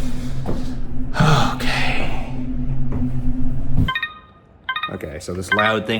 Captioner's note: instrument beeping